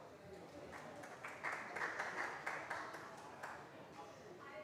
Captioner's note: applause